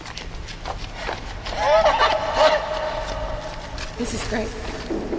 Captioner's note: taunting hyena laughter